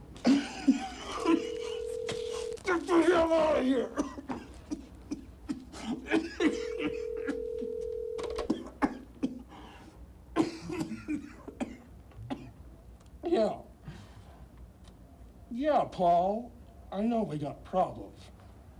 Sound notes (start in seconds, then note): 0.2 Mark coughing; 6.4 telephone ringing